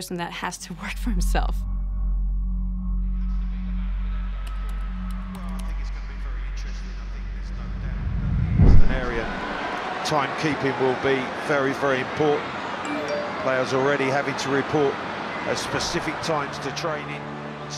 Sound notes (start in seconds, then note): 12.8 message ringtone